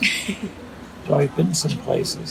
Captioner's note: laughs